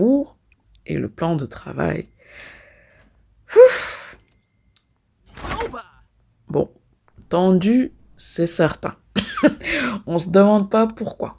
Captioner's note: laughs